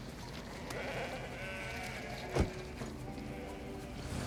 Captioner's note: bleating continues